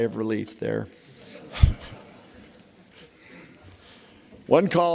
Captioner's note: laughter